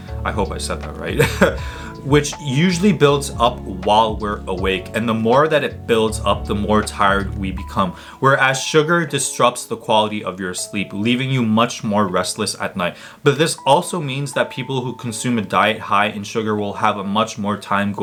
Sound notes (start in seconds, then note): 1.1 chuckles softly